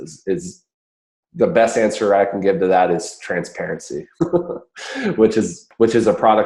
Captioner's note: laughs